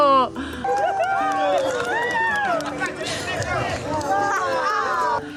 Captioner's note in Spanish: Aplausos